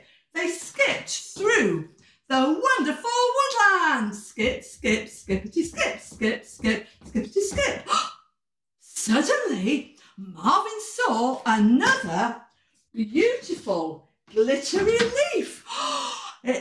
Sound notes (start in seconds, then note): 7.6 gasp; 15.6 gasp